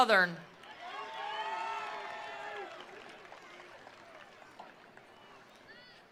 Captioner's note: attendees applauding; attendees cheering